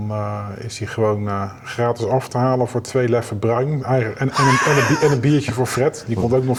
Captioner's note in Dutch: gelach